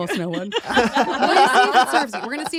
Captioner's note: laughter